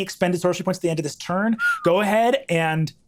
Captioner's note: whistles